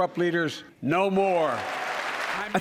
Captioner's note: cheering and applause